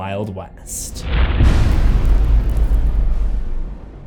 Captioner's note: impact